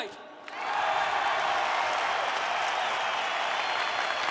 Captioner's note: people cheering